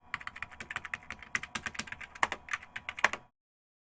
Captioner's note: keyboard clacking